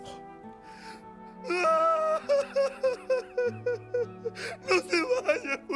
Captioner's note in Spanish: Juanín rompe en llanto